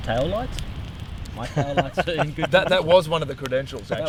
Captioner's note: laughing